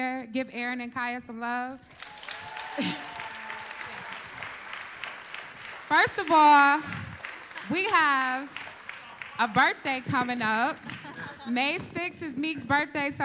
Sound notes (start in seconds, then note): 1.8 applause